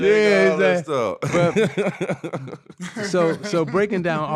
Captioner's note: laughing